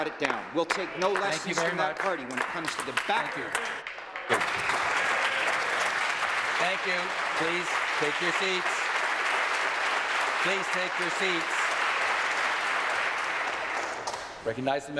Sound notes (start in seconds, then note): 7.8 applause